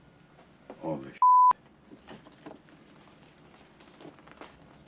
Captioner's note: beep